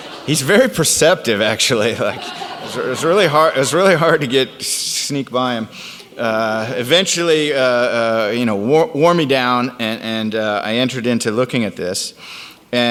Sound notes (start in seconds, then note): 2.0 audience laughs